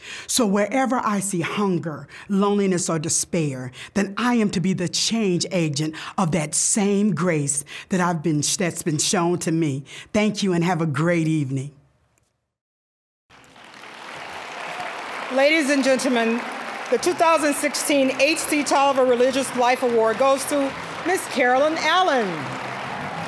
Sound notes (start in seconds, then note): 14.0 applause